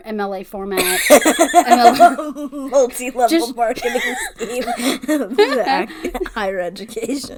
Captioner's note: cackles